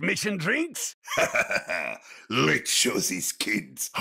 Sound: chuckles

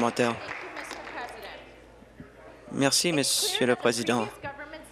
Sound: applause

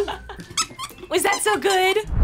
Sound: toy squeaking

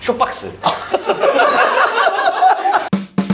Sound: bwahahaha

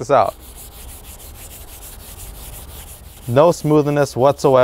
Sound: rubbing sound

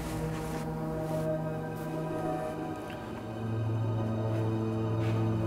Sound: grass crunching

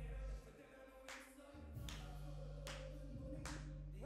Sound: clapping

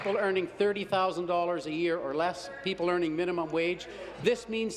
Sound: applause

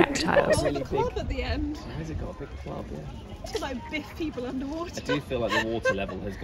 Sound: talking and laughing

